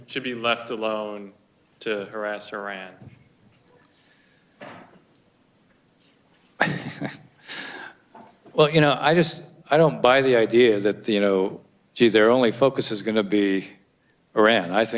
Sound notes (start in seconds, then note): 6.6 chuckles